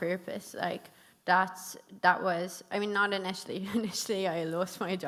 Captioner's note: chuckles